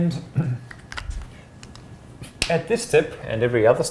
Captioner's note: clears throat